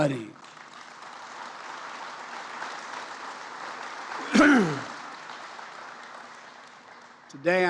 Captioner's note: applause